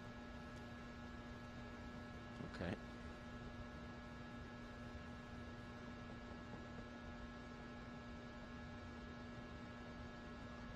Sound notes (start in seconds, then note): none